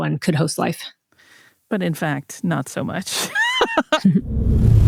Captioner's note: laughs